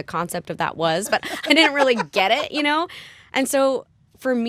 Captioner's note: laughter